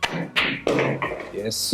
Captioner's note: balls clanging